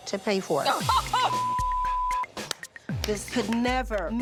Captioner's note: laughs